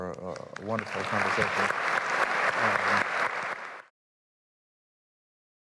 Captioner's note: clapping